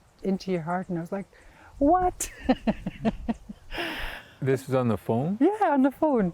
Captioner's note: laughs